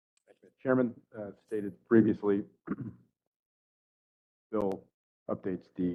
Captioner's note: cough